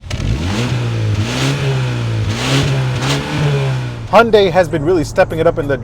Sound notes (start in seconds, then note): 0.0 engine revving